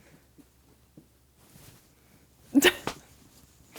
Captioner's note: laughing